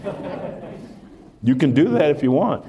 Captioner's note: laughter